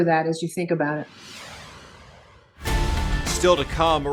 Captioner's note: transition whooshes; upbeat music